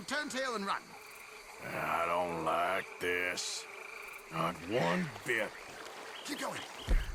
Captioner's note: laughs; grunts